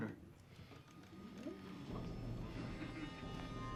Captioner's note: cadets Oohing